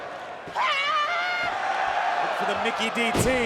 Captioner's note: Mickie shouting